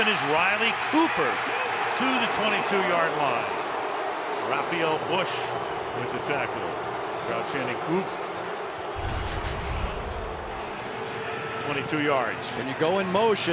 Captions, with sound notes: Wide open is Riley Cooper to the 22-yard line. [cheering] Rafael Bush with the tackle. [crowd chanting, "coop"] Crowd chanting "Coop." 22 yards.